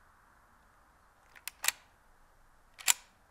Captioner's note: gun cocking